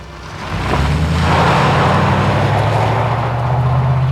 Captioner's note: motor revving